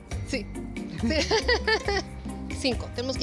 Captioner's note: laughs